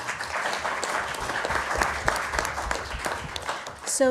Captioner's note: applause